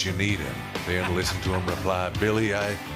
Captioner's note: laughter